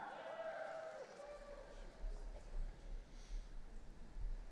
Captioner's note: audience cheering